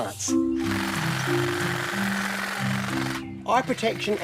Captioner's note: trimmer rattles